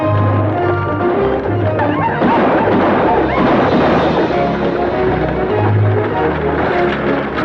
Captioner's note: dramatic orchestral music; Apaches howl; guns fire